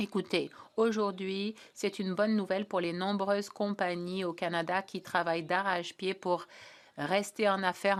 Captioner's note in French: voix de l'interprète